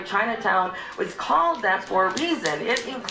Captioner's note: crowd claps